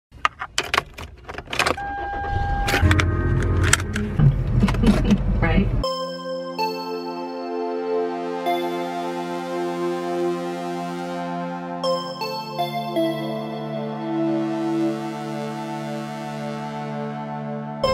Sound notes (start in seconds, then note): 0.5 car starting; 2.6 seat belt clicking